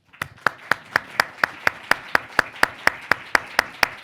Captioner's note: audience applauds